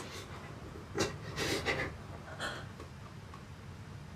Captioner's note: Billy sniffling